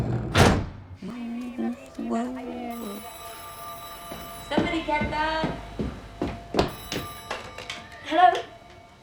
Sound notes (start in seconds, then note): 1.1 humming tune; 1.4 phone ringing